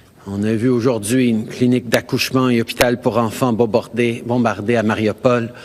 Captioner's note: speaking french